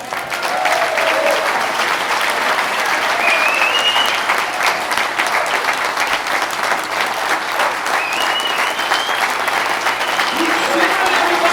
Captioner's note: applause